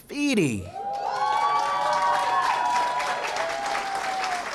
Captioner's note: cheering & applause